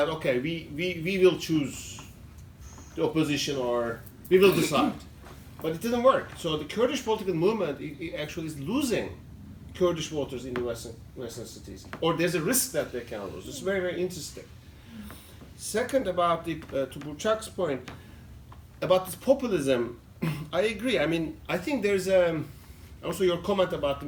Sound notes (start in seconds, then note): 16.4 non-english